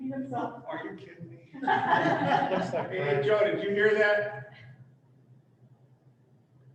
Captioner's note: laughter